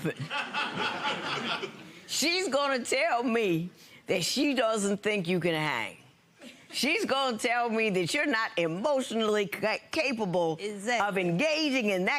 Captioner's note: audience laughs